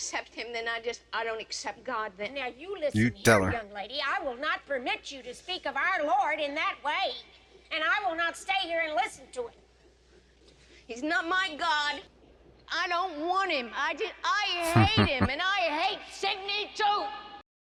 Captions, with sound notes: You tell her. [Chuckling]